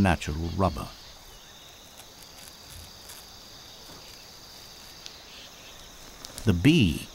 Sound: birds chirping

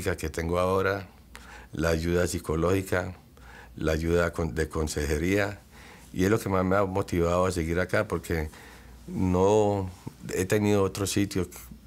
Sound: speaking Spanish

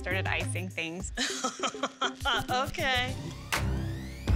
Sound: laughs

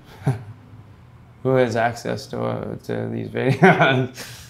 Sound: laughing

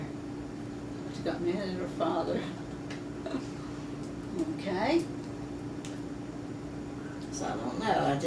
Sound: laughs

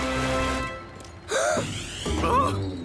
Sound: gasps

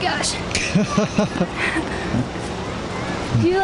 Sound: laughs

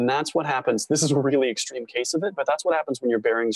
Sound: chuckle

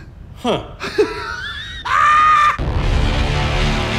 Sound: screamed cheering; ominous music

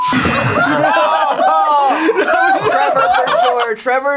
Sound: beep

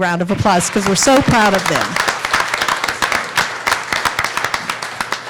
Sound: applauding

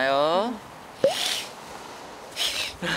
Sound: sniffle sniffle

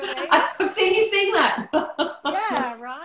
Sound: laughter

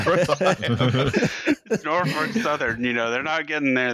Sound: laughter; laughing

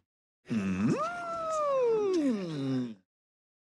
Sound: Clip of the Chamberlain’s distinctive whimper

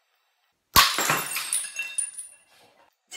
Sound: glass smashes

